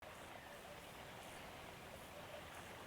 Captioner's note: distant water ambiance